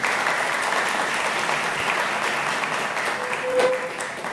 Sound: applause

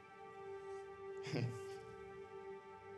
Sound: he chuckles

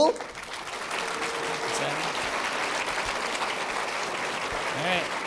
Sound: applause

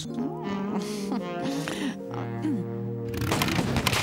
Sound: seductively; engine sputtering

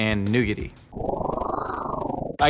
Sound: whooshing

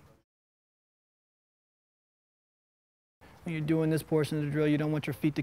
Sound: pause

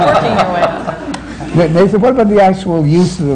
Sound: laughter

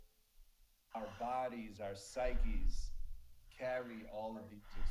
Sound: breath whooshing

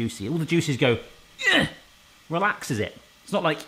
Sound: grunting

